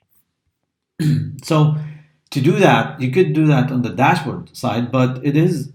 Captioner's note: cough